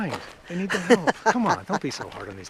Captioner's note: laughs